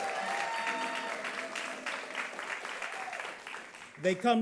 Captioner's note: audience claps